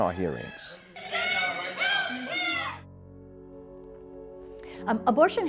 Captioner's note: shouting